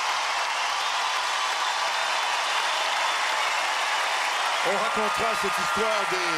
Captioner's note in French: acclamations